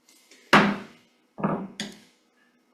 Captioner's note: gavel bangs